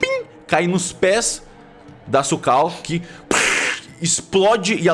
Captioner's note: pufff